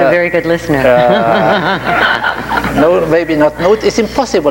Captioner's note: everyone laughs